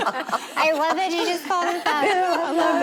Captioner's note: laughing